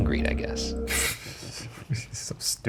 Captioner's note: chuckling